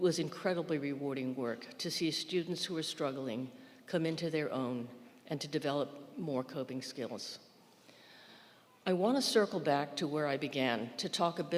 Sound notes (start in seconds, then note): none